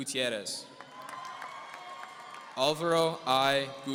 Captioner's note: audience cheering